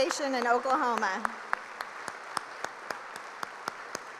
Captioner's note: applause